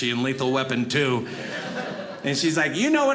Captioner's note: audience laughing